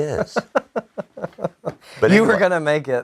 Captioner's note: laughing